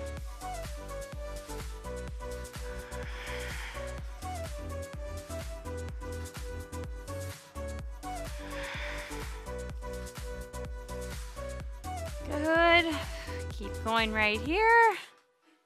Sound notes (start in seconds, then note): 2.3 exhales